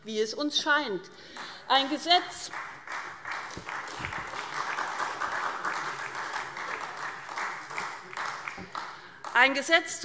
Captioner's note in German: Beifall SPD und Freie Demokraten